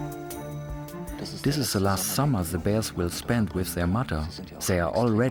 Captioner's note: in German